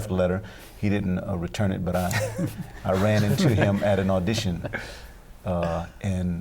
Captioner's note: laughter